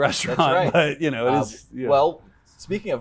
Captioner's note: laughing